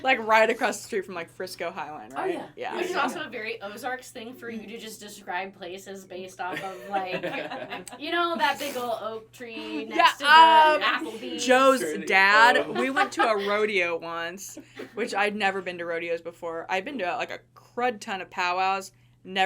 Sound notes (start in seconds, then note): 6.5 everyone laughing